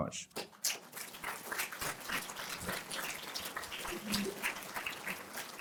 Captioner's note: applause